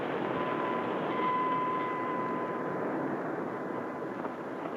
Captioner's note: bell clangs